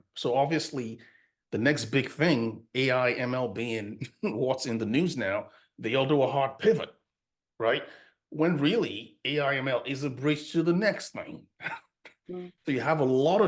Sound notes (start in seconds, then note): 3.6 chuckles; 12.6 laughs